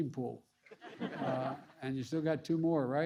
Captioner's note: laughter